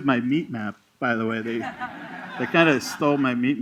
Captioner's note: laughter